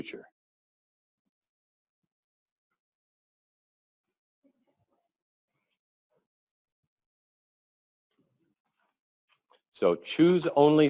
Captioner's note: pause